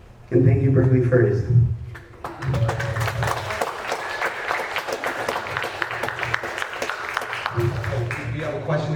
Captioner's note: applause